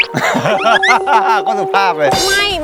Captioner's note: laughing